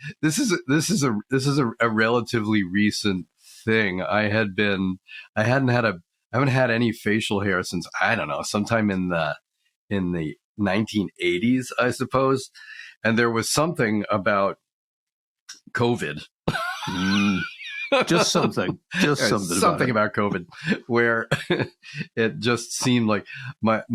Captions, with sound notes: This is a relatively recent thing. I haven't had any facial hair since, I don't know, sometime in the 1980s, I suppose. And there was something about COVID (laughs) Just something. Just something about it. Something about COVID where it just seemed like...